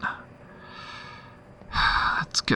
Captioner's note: sigh